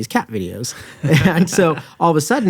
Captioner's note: both chuckle